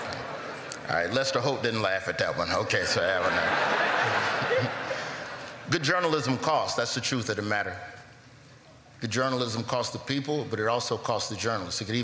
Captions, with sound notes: MY DADDY TELL WAR STORIES LIKE BRIAN WILLIAMS. [LAUGHTER] [LAUGHTER] ALL RIGHT, OKAY, LET'S HOPE